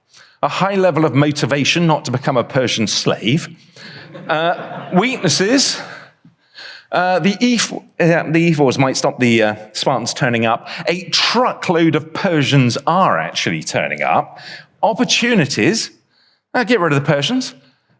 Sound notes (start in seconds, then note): 3.8 audience laughs